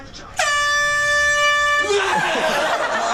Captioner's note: air horn blaring; man screams then laughs